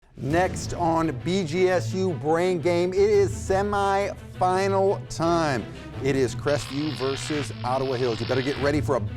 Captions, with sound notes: (suspenseful music) - Next on BGSU Brain Game, it is semi-final time. It is Crestview (static crackles) versus Ottawa Hills. You better get ready